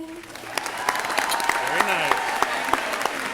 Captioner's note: crowd cheering